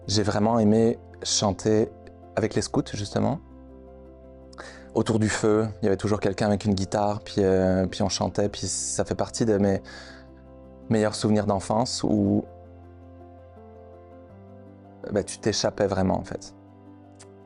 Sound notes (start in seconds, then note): none